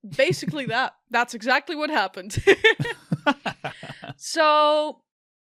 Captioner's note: laughter